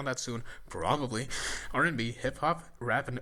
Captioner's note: inhales